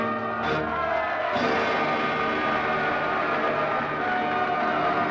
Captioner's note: applause and cheering